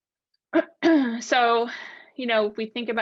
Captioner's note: clears throat